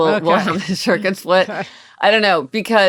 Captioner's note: laughing